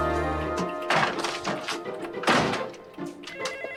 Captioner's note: cabinet clacks; phone rings